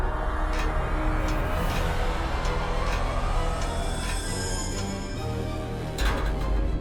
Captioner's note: ladder creaking as he climbs up; shaft opening